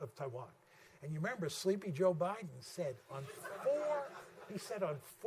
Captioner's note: laughter